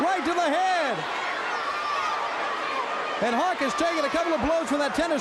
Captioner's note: crowd cheering